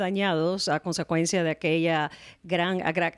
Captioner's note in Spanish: Hablando ingl\s